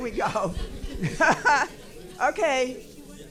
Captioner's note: laughing